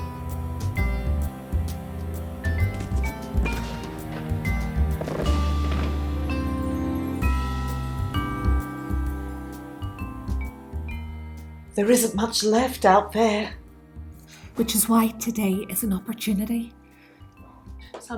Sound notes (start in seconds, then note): 3.4 sound of an distant gunshots